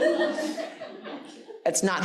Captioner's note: audience laughing